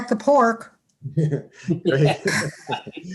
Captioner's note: laughter